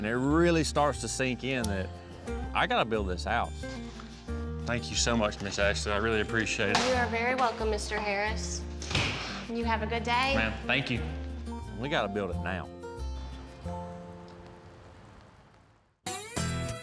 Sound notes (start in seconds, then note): 8.8 vault door closes; 13.0 door opens, closes